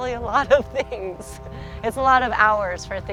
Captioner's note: chuckles